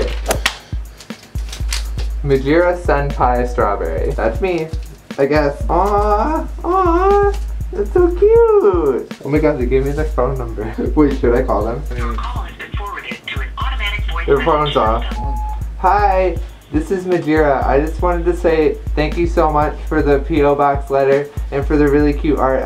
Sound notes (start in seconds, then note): 0.1 claps; 12.1 automated phone response; 16.9 into phone